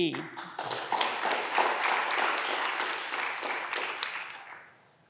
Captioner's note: audience clapping